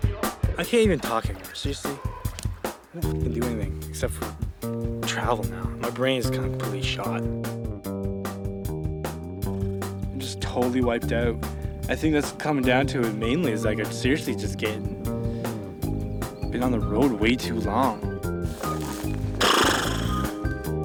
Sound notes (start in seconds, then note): 19.3 imitating animal snorting